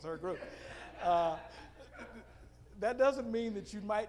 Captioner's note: audience laughing